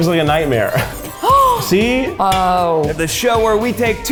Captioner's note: gasps